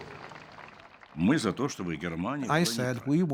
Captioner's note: crowd applauding; Gorbachev speaking Russian